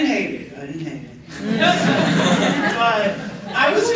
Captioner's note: laughter